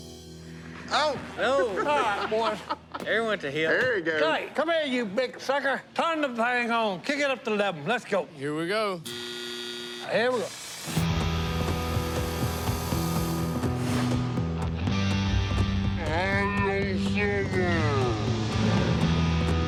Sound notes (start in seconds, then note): 1.5 laughter; 9.0 buzzer sounds; 15.2 slow-motion voicing